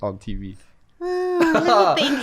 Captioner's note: laughs